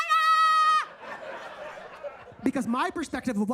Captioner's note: audience laughs